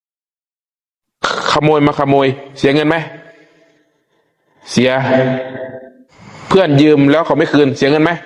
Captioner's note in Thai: เสียงสูดหายใจ